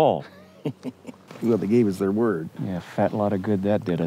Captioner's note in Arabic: يضحك